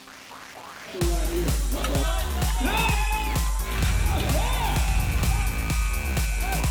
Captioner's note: upbeat music; crowd cheering